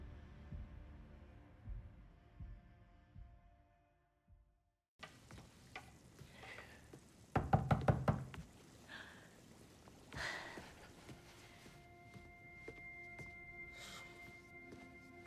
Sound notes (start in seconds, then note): 7.3 knocking